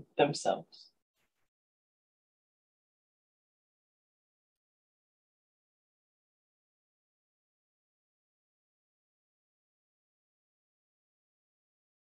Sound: silence

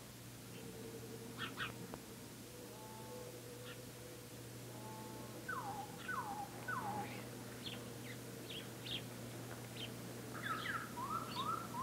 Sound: birds chirping

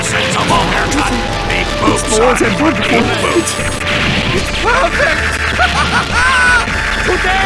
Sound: gleeful laughter

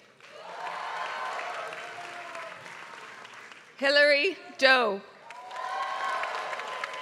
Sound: applause

